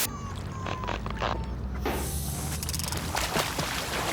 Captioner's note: air hisses